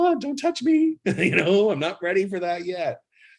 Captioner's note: laughs